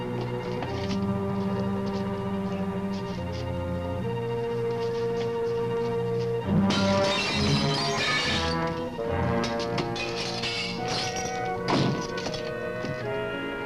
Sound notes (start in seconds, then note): 6.5 intense music; 6.6 glass breaks